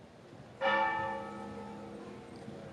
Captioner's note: bell